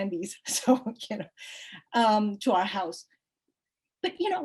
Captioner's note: chuckles